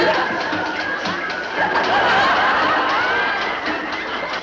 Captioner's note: blows on him